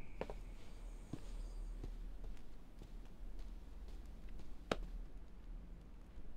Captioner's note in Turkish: Ayak sesi